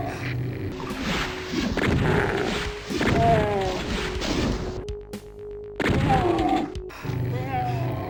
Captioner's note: doom Sound